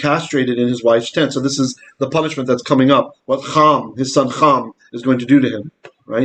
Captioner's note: Hebrew